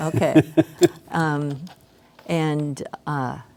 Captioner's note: laughing